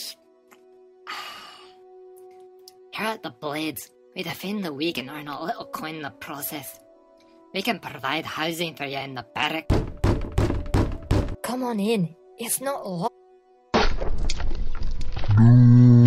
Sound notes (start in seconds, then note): 9.6 aggressive knocks at door; 13.6 door Crashes in